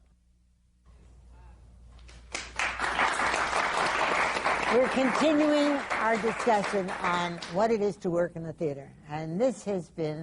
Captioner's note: applause